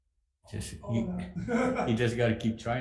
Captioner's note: laughs